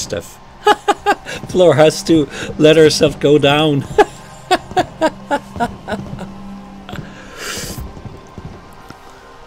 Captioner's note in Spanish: Risas